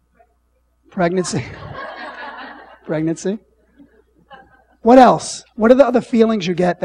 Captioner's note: laughing